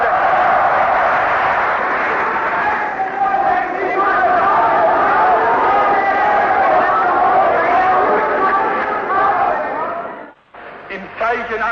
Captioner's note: applause, Screams: "Out with the Jews!"